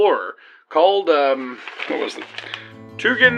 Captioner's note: shuffles paper